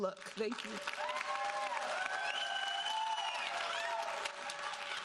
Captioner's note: audience cheering